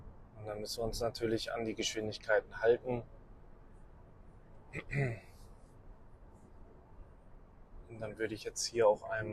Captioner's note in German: räuspern